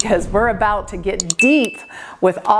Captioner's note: bell dinging